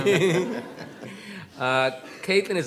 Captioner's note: all laughing